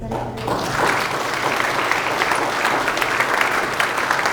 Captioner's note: all applauding